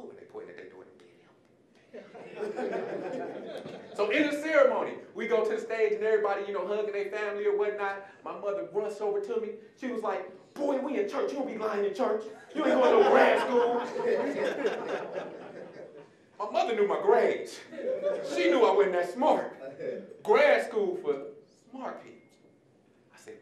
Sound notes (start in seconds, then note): 1.9 audience laughing; 12.4 audience laughing